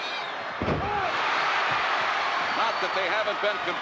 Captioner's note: audience cheering